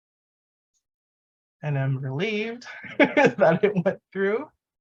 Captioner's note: laughs